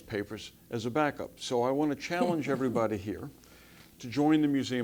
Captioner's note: laugh